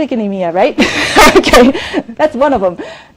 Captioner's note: laughs